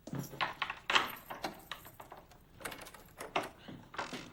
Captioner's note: lock clicks